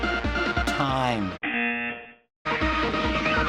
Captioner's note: buzzer